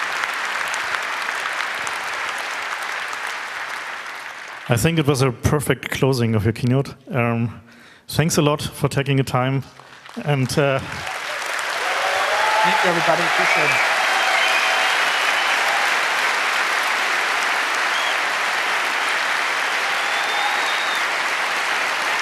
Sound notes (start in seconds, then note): 0.0 applause; 12.4 very loud applause